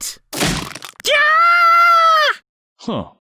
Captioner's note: crunch; screaming in pain